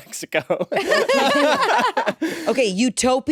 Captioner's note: all laugh